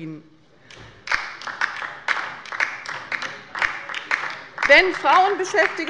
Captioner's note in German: Beifall bei der LINKEN